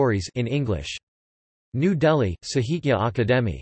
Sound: in English

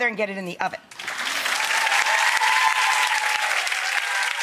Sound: audience cheering

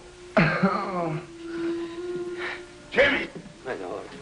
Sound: groaning

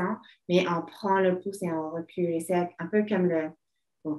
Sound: speaking French

